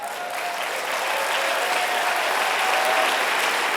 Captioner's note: applause